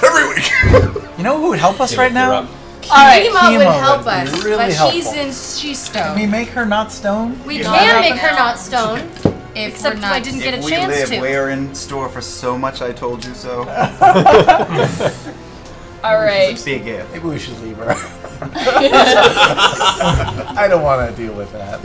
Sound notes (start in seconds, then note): 13.7 laughter